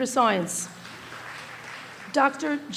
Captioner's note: small applause